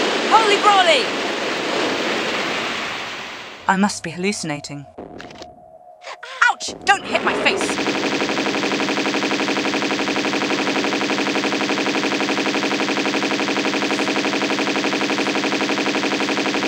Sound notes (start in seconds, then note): 9.9 bratatatatatatatata; 11.9 huge fire blast